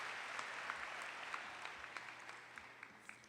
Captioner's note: applause